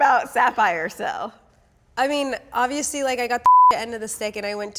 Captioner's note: beep